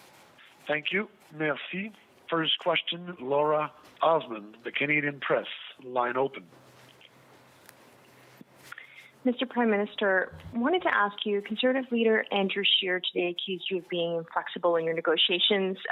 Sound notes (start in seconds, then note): 6.4 speaking french